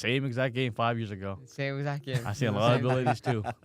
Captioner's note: laughs